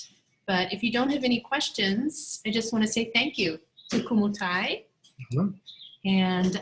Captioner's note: mmhmm